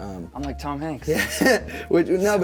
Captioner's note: laughing